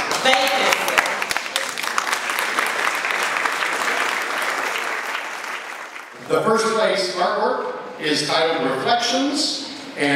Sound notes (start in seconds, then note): 4.8 ^applause^